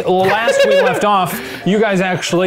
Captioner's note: laughter